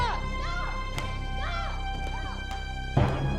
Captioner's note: slaps; ominous music